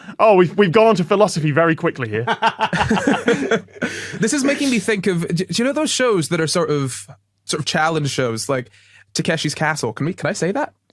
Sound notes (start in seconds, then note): 2.2 laughing